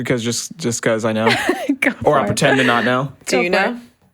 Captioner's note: laughs